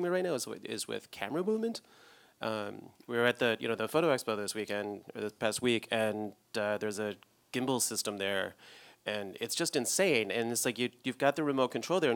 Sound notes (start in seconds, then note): none